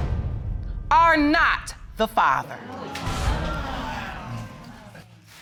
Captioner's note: audience exclaiming